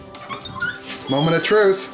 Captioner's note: door squeaks